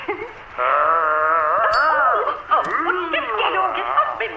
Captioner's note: zombie groaning on radio